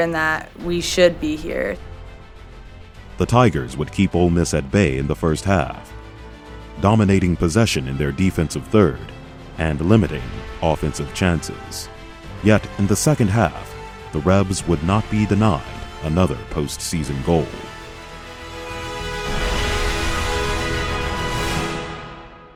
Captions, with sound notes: and that we should be here. - [Voiceover] The tigers would keep Ole Miss at bay in the first half. Dominating possession in their defensive third, and limiting offensive chances. Yet, in the second half, the Rebs would not be denied another post-season goal. (suspenseful music builds up)